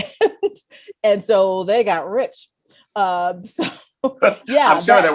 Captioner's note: laughs